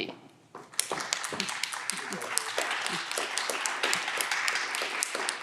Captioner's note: audience clapping